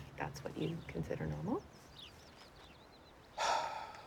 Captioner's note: sighs